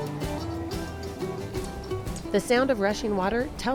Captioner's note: water rushing